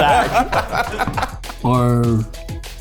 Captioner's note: laughter